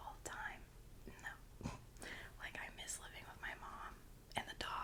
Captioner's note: snort